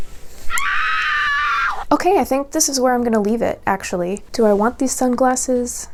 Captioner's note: scream